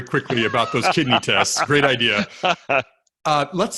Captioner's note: laughs